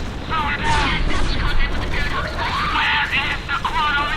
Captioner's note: radio Chatter